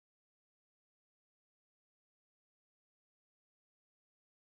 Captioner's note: none